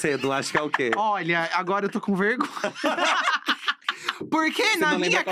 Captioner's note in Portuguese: risos